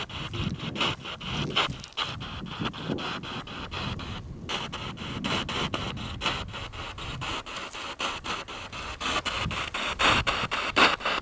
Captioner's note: radio noise from the spirit box